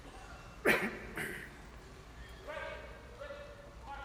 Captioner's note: participant throat clearing